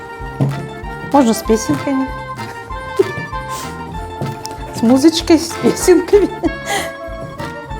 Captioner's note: laughing